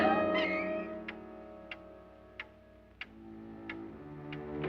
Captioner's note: clock ticking